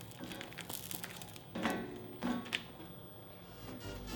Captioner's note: squid crackles